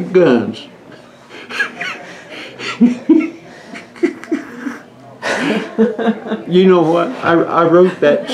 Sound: laughter

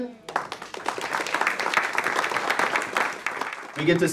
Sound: attendees applaud

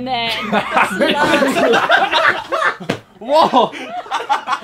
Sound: group laughing

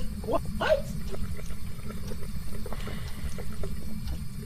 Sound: Dirty Water sounds; chuckles

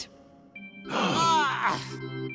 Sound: gasping

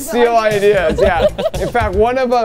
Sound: laughing

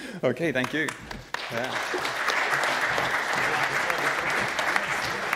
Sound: audience applauding

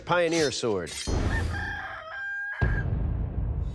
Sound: rooster crowing

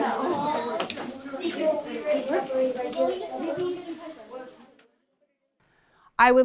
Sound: background classroom talking

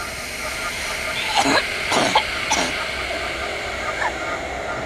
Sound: chokes

